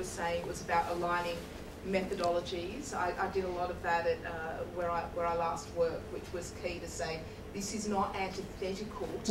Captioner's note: none